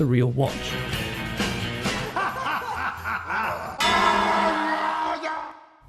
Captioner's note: heavy laughter followed by epic spy moment